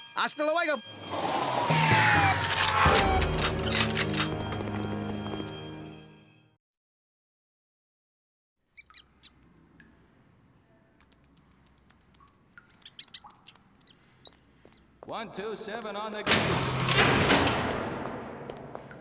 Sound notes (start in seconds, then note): 2.3 guns cocking; 8.8 squeaking